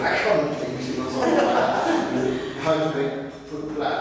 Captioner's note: joint laughter